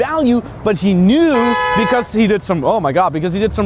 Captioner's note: car horn honking